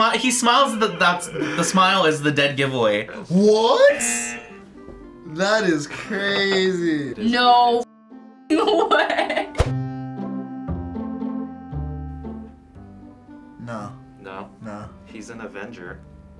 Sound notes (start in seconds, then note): 4.0 buzzer; 9.2 laughs